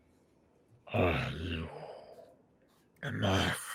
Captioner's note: heavy voice